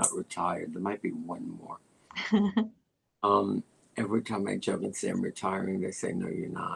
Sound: laughter

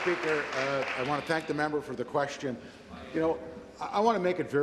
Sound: applause

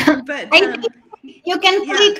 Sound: laughs

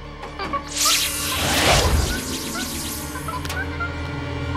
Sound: magical sounds

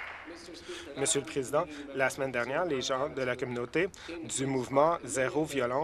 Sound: applause

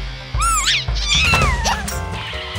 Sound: squeaking

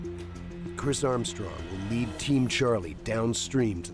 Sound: voiceover

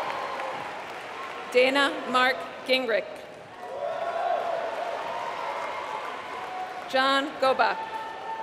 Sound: applause

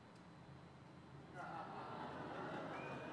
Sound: laughter

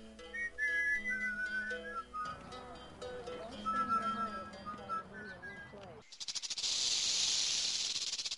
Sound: snake hissing and rattling

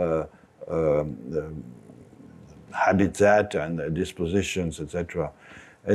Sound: none

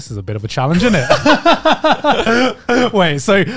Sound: all laughing

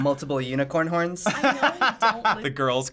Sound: laughs

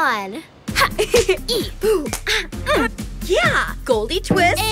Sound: giggling

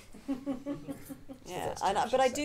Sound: audience laughing

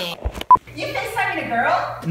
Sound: mom yells from off camera

